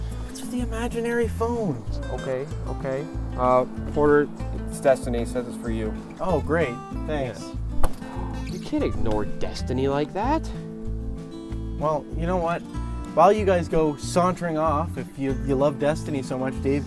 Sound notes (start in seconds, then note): 8.0 dave gasps